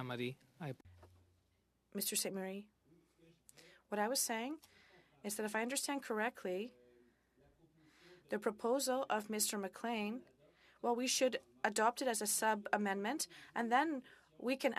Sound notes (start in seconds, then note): 9.0 speaking French